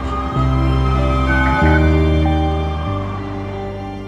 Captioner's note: sunlink klaxon